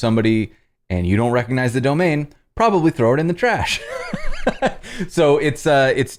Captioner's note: laughter